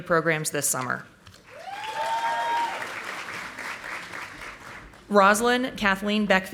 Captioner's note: audience applauding